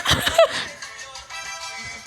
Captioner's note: laughs